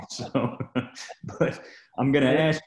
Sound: laughing

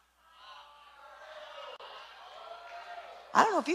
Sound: cheering

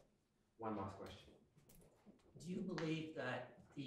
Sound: voiceover

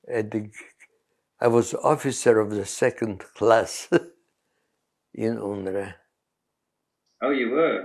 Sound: laughs

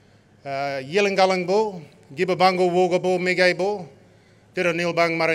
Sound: non-english speech

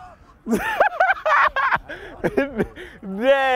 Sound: laughing

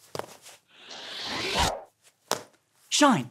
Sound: air whooshing

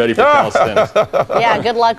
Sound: laughs

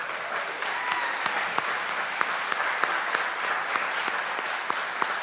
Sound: audience clapping

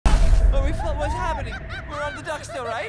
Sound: Ham laughing

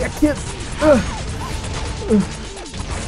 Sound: grunt

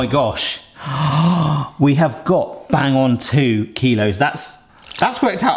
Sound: gasping

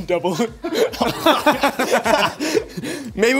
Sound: laughing

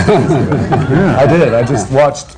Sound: laughter

